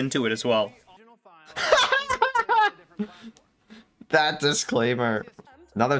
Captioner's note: laughing